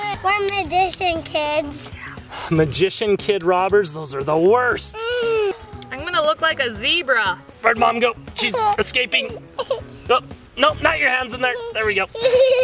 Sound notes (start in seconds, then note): 9.2 laughs